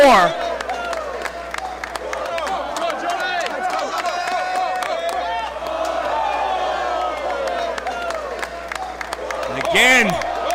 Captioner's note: applause